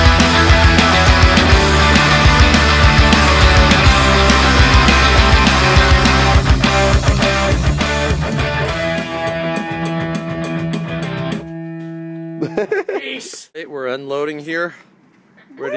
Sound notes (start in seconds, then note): 12.4 laughing